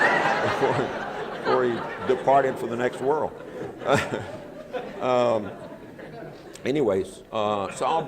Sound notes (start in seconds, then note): 4.5 laughter